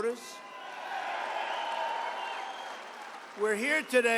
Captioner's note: applause